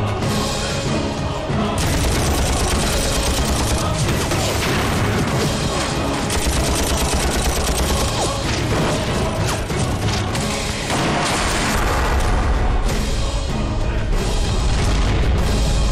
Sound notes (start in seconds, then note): 1.8 shooting